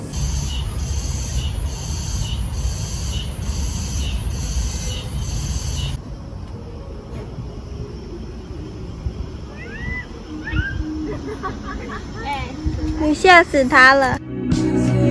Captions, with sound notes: [loud cicadas] *aggresive meowing* [laughing] alright, let's go you're scaring them